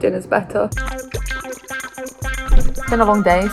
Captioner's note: electric guitar music; viscous liquid pours; air whooshes